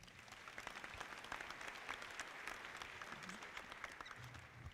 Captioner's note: audience clapping